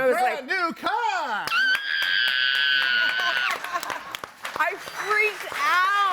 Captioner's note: screams